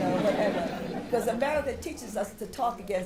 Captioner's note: laughter